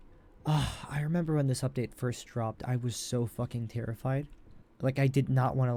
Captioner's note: sigh